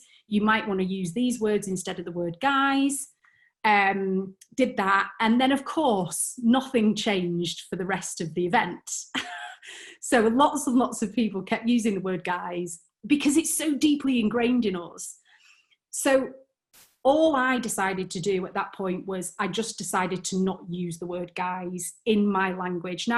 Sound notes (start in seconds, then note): 9.2 chuckles